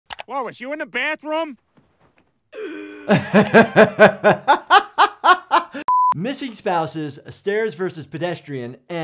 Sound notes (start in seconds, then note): 2.5 Lois gasping; 2.6 laughing